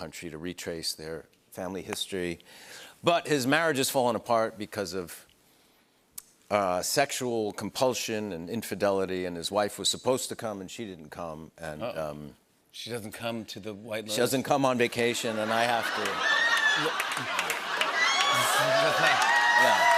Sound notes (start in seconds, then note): 15.0 laughter; 18.2 cheers and applause